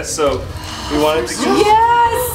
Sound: girls gasp

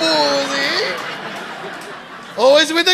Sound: audience laughing

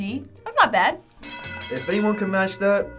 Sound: bell rings

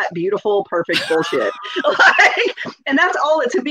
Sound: both laugh

